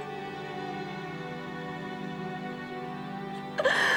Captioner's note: crying